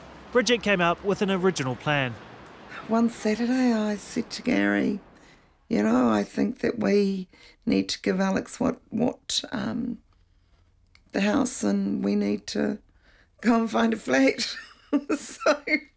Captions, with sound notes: Bridget came up with an original plan. One Saturday I said to Gary, "You know, I think we need to get Alex out... ...of the house and we need to go and find a flat." (laughs)